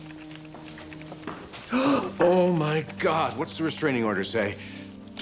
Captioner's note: gasps